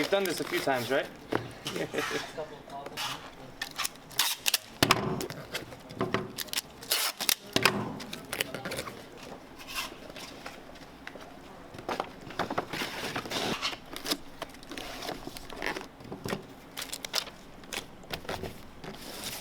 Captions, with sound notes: - You've done this a few times, right? (woman chuckles)